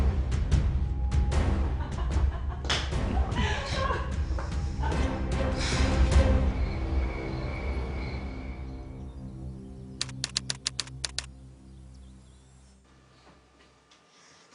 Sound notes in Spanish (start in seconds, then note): 1.7 Risas